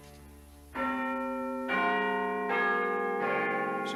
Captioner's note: chimes